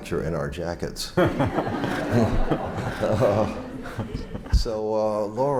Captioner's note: laughter